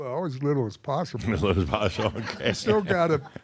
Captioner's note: chuckles